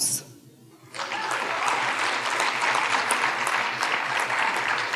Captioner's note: audience applauding